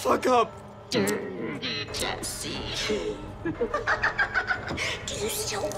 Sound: laughs malevolently

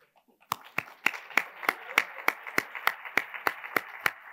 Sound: attendees applauding

